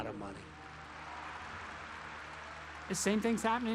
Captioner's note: audience applauding